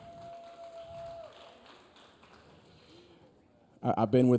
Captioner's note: audience cheering; audience applauding